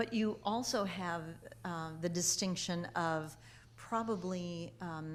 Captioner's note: none